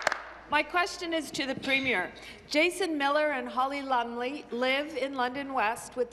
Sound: applause

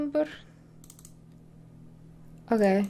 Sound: mouse clicking

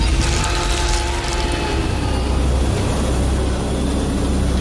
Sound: bones cracking; screams of pain

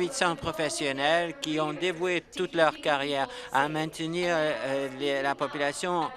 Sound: applause

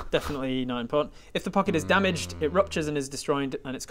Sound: untrusting mmm

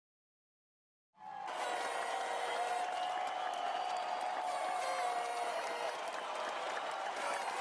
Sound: crowd cheering; party favors honking

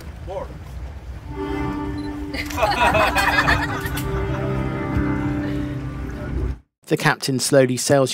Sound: passenger laughter

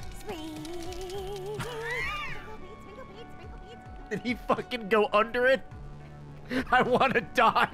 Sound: laughs

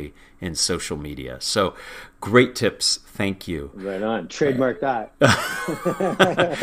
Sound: laugh

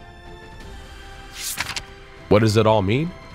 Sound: paper rustling

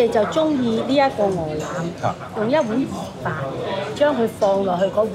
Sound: woman speaking Cantonese

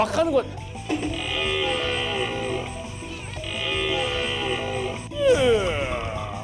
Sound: A real deer sound

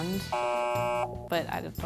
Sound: buzzes

